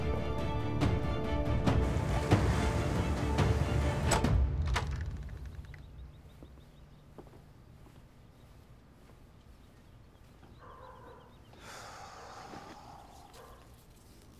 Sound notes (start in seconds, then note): 4.2 sound of door opening; 8.2 birds chirping sound